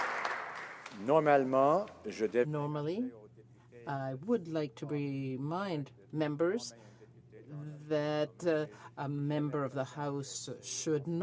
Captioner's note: some Applause